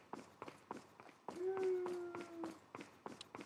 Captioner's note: woooo